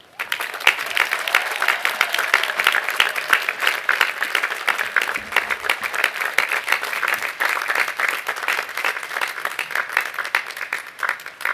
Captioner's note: applause